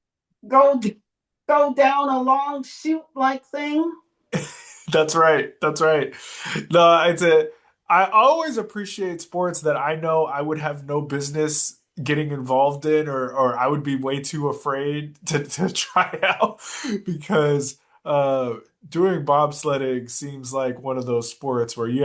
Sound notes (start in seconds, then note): 15.2 laughs